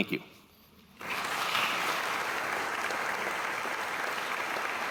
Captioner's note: audience applauding